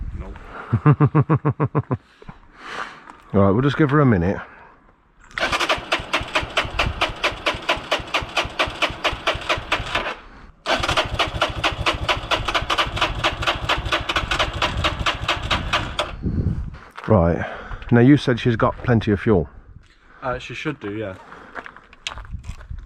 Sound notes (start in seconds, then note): 5.1 engine turning